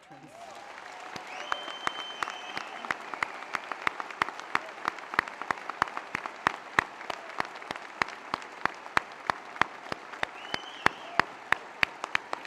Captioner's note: cheers